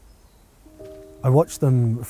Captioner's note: birds chirping; footsteps crunching